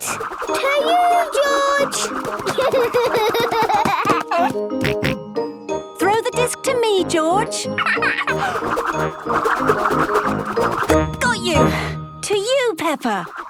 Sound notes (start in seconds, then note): 1.9 giggling; 4.8 snorting; 7.6 laughing